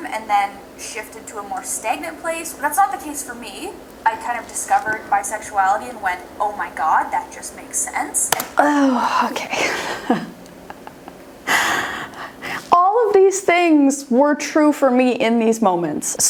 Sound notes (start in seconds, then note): 8.6 laughs